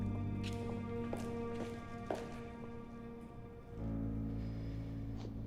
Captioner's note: gentle music; shoes clacking